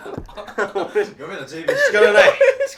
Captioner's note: laughing